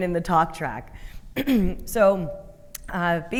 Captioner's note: clearing throat